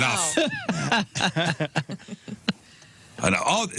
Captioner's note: laughter